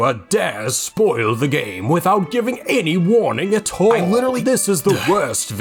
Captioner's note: sigh